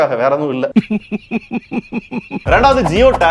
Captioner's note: laughing in jest